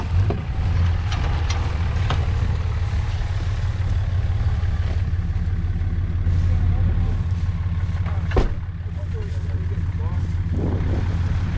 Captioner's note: motor running